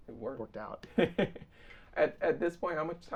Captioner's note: laughing